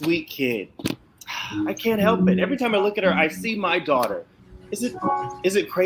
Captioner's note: sighs